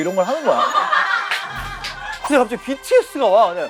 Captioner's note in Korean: 웃음